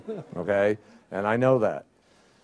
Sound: laughter

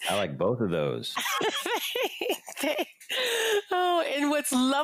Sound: laughing

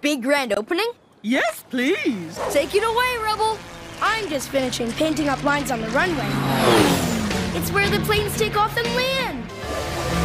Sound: plane Zooms

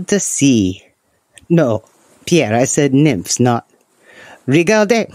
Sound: sigh

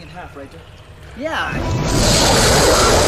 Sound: centipede hisses

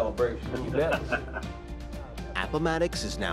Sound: man laughs

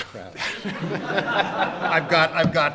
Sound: audience and panel laugh

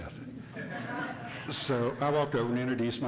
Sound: hearty laughing

